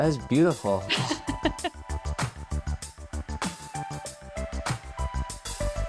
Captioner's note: laughing